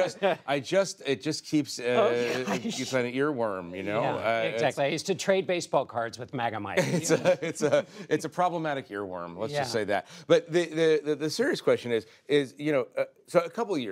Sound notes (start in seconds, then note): 0.9 laughter